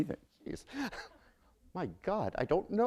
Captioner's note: chuckle